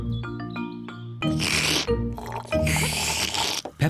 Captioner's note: both slurping